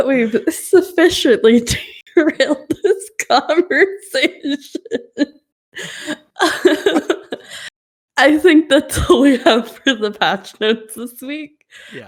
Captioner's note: laughs